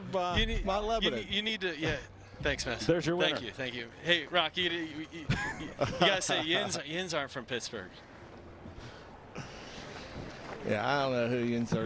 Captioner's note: laughing